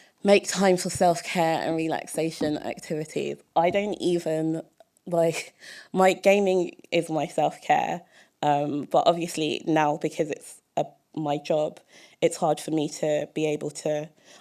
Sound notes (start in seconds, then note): none